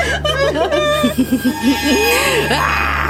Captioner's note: giggling